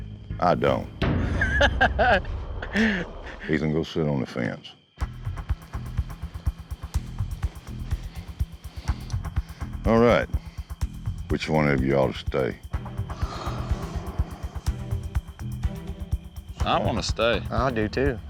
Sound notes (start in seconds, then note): 1.2 laughter